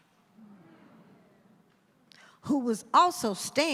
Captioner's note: audience groans